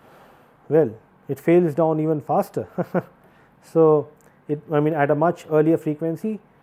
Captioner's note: laugh